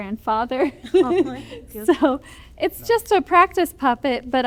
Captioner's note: laughter